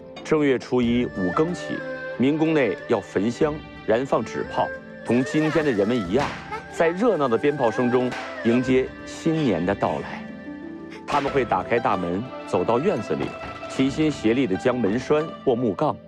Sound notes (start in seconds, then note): 7.9 amidst the lively sounds of firecrackers